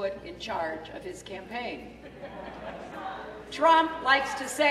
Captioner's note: laughter